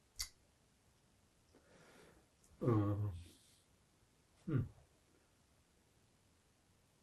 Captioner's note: pauses 10 seconds